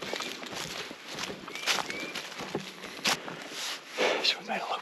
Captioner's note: boots crunching